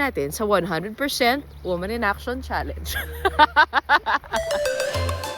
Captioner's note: laughs